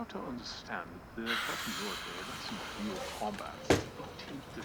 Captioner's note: sizzling